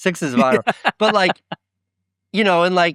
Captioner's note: laughing